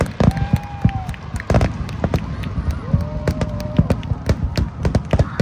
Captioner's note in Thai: ปรบมือ